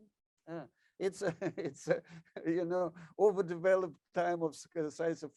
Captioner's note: speaks in foreign language